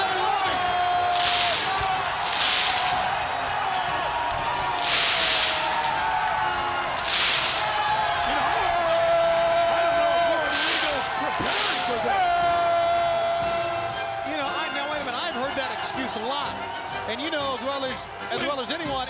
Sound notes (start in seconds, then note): 3.8 crowd cheering